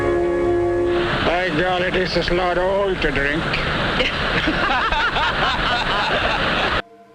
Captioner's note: laughter